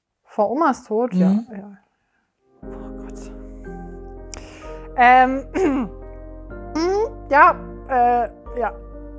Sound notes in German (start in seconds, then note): 2.4 Ruhige Musik; 5.6 Räuspern